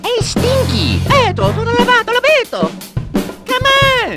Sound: Mario sounds

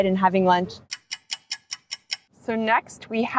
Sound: stopwatch ticking

